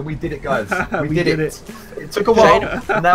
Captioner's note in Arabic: ضحك